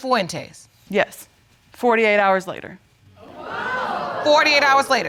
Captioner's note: audience exclaiming